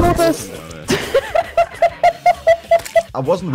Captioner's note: laughs